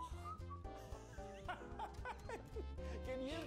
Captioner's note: laughing